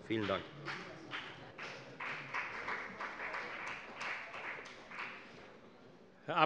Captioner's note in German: Beifall bei der FDP